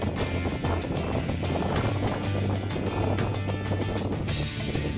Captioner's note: wind gusts